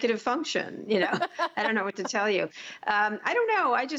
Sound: laughter

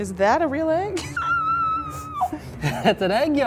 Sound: squealing

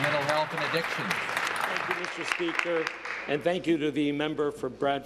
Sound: applause

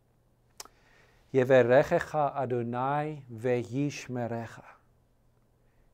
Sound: speaking in foreign language: Hebrew

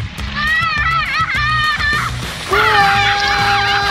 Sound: yelling

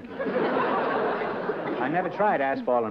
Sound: laughter

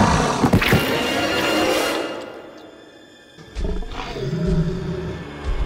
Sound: eerie music; roaring; growling

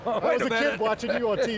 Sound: laughs

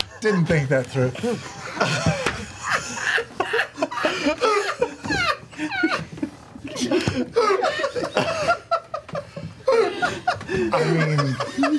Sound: all laugh

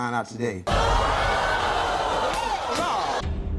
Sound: audience groans

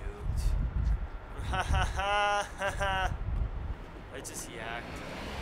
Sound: laughing

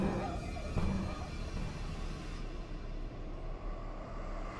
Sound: voice fading

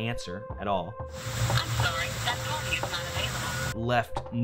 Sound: on phone

